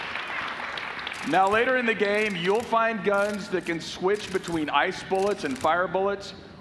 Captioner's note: applause